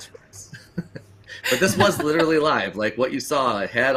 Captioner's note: laughs